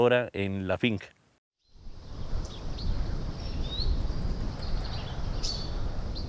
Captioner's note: bird’s singing